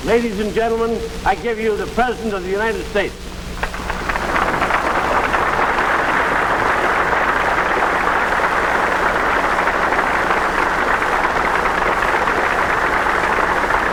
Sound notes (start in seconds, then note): 3.5 applause